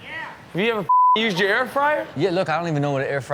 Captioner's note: beep